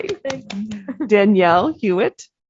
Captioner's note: applause; giggle